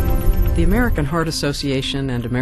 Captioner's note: voiceover